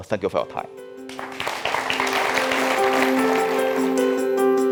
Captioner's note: audience applauding; inspiring music